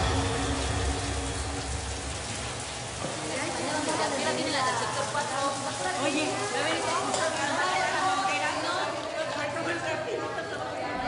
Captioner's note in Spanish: Ruido de agua cayendo y de conversaciones